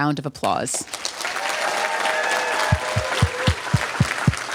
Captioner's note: applause, cheering